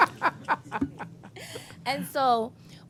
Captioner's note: laughter